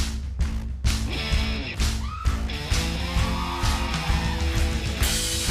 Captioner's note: cheering